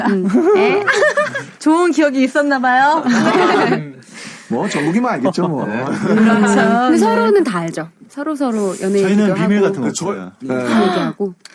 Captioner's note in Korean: 웃음